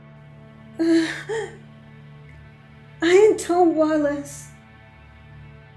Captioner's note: cries